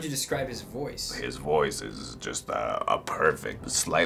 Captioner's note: deep voice